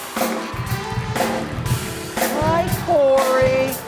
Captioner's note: upbeat music; audience applauding